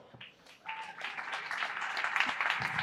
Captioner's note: applause